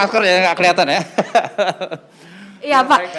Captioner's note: laugh